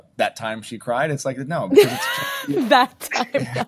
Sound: laughing

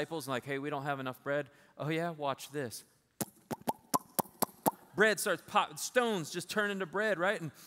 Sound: popping sounds

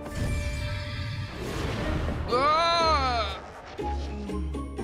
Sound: yelling

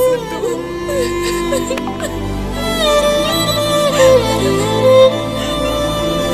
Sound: sobbing

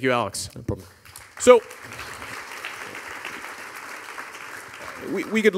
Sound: audience applauding

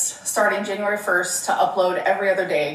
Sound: none

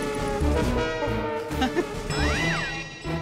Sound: laughing

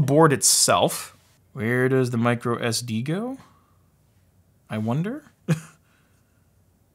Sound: laughs

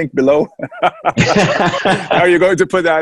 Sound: laughs

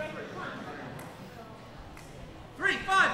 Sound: chattering

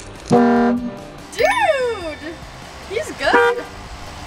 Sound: slow motion horn; chime; truck horn

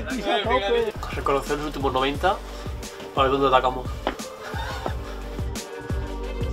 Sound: laughs

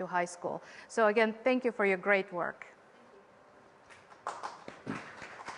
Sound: applause

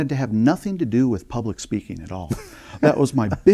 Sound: laughing

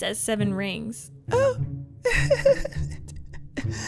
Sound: laughing

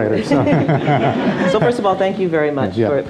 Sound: audience laughs

